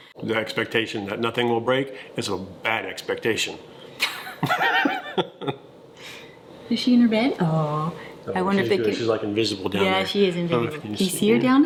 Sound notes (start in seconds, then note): 4.0 laugh